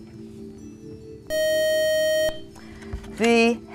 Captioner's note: beeping